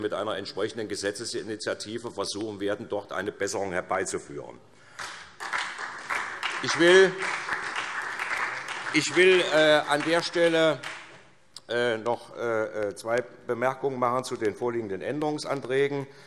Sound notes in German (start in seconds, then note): 9.2 Beifall SPD